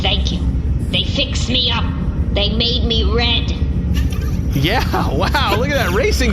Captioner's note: laughing